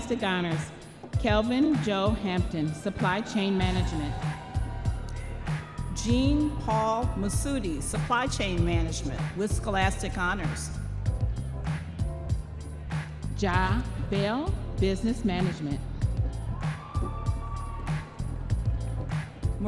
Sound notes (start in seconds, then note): 5.0 audience members cheering